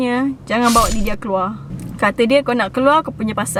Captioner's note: stabs sound effect